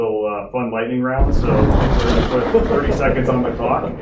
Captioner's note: thunder and lightning cracks